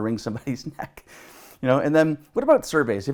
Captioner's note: chuckles